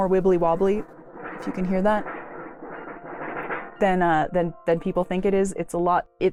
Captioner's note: weird metal wobbling noise